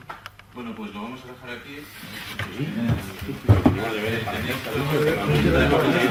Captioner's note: murmuring “homework to do”